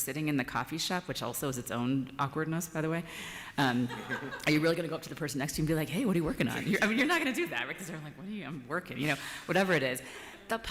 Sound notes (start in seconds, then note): 3.7 laughter